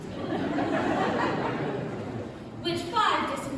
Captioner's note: laughter